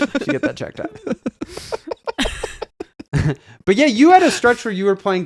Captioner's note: laughing